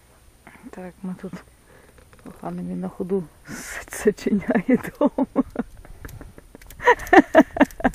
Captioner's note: laughter